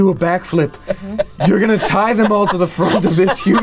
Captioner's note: laughing